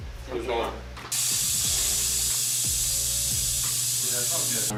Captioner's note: steam whirs